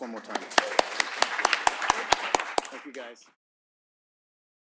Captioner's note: applause